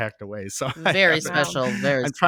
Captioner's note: chuckling